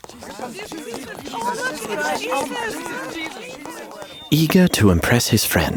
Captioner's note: crowd murmuring excitedly